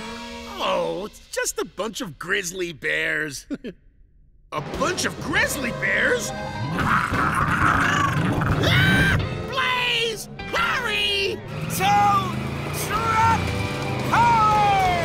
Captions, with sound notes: Oh, it's just a bunch of grizzly bears. A bunch of grizzly bears! [growling] [screaming] Blaze, hurry! Tow... truck... power!